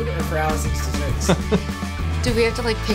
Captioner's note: laughs